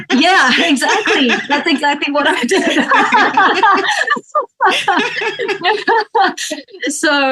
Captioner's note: laughs